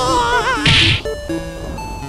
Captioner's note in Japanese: 落ちた音